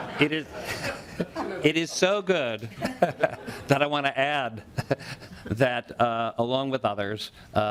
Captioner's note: laughing